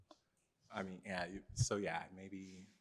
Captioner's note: stammering